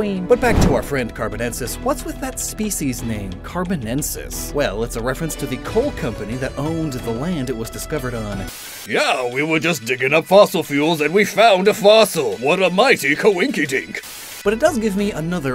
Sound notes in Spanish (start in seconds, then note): 8.4 Con voz falsa